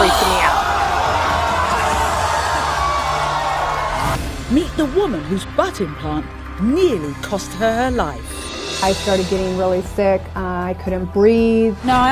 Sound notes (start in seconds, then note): 0.0 gasps from the audience